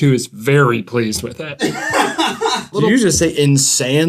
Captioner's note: laughter